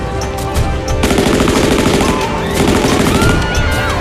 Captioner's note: gun shots